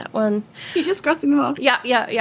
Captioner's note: both laughing